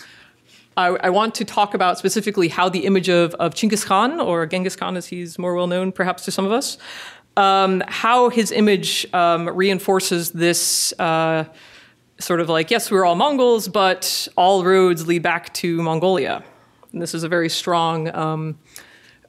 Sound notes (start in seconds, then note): none